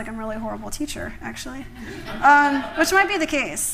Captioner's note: laughter